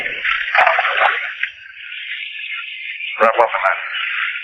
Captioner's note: water splashing